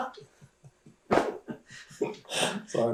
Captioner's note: laughs